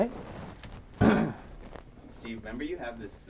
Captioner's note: clears throat